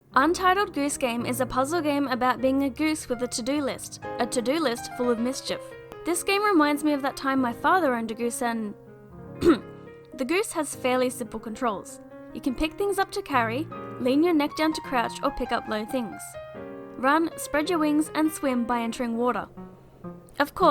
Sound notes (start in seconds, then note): 9.4 coughs